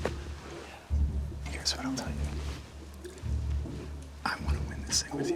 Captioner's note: whispering